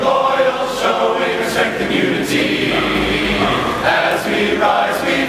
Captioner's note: dog barks in tempo!